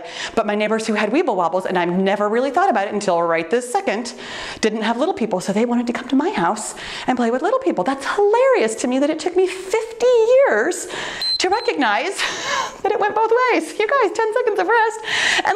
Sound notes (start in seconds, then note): 11.1 timer beeps